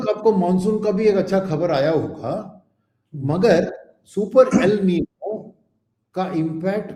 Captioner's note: sound of clearing throat